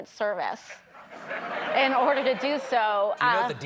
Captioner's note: laughter